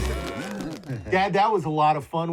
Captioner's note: animals applauding